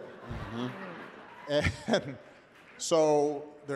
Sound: laughter

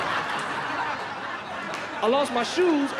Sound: laughter

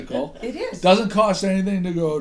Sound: voiceover

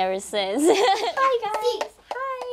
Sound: laughs

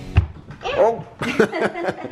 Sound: thump; laughing

